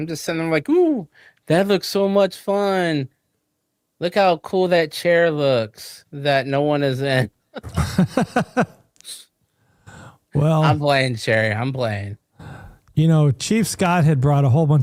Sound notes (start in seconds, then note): 7.6 laughing